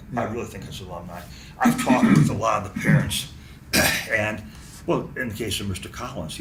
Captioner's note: clears throat